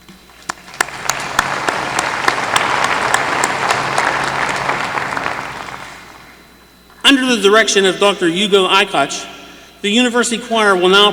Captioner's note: applause